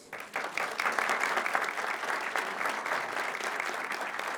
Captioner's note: crowd claps